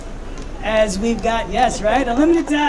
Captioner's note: audience cheering